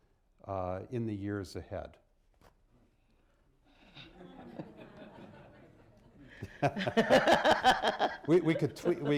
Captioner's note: laughter